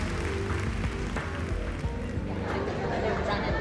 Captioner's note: chatter